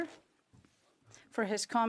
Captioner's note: speaking French